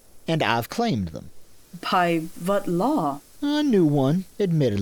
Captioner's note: accented